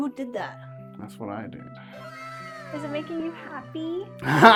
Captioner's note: WOW! sound effect